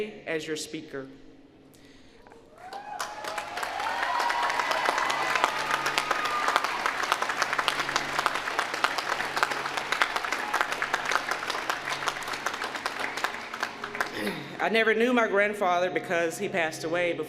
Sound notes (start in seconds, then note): 2.5 applause